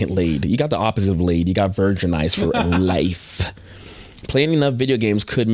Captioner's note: laughing